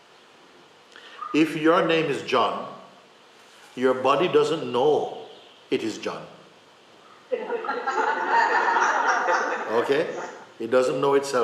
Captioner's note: laughter